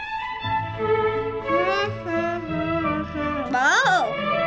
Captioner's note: hums along